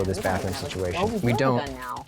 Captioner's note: pat